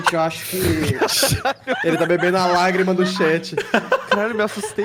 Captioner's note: laughs